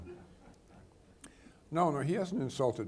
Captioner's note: people laughing